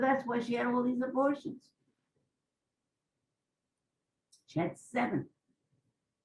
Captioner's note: pauses for 3 seconds